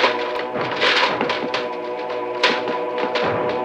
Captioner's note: rattling